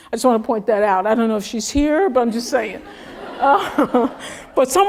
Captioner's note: laugh